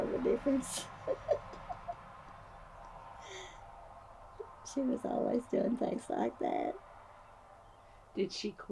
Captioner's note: laughs